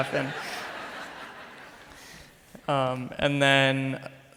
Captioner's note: crowd laughs